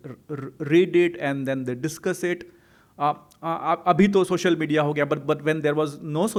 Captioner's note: hindi